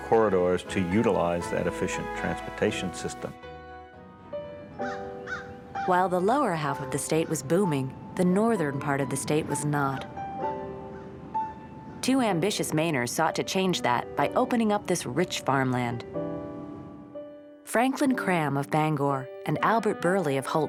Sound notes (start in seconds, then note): 4.1 dramatic music; 4.7 bird caws